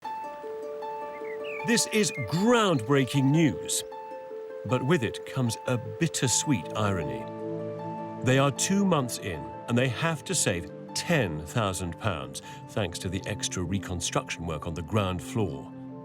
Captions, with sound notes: (gentle upbeat music) (birds chirping) - This is groundbreaking news, but with it comes a bittersweet irony. They are two months in and they have to save 10,000 pounds. Thanks to the extra reconstruction work on the ground floor.